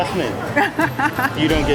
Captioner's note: laughs